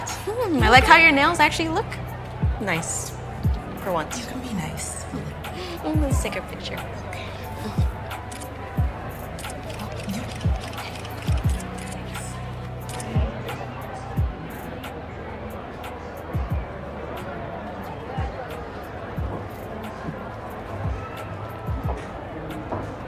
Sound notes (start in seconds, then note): 9.4 camera shutter clicking; 14.3 all chattering; 18.7 upbeat music